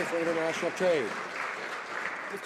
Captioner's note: some Applause